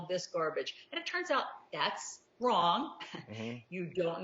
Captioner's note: chuckles